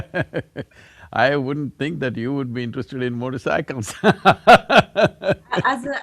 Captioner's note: laughs; laughs